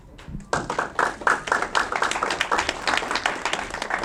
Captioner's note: audience clapping